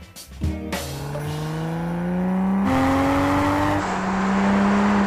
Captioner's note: car engine